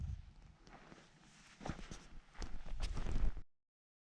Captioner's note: soft footsteps